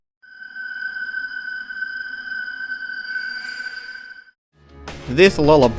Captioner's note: FNAF3 "Danger" sound effect